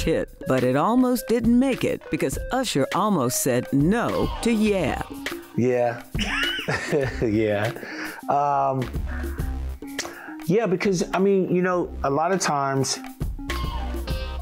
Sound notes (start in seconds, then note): 6.1 laughing